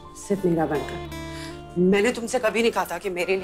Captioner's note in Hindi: none